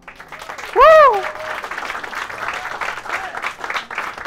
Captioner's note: audience applauses